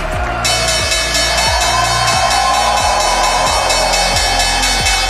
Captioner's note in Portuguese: Ovação